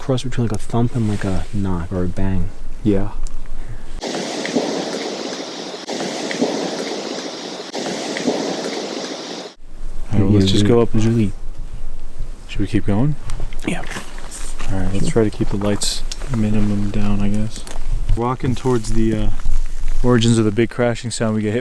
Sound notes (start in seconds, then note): 4.0 indistinct thudding